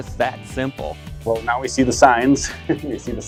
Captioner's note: laughs